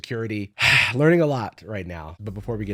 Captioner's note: sighs